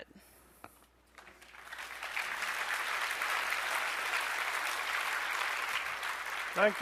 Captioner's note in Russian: аплодисменты